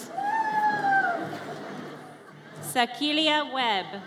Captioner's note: audience cheers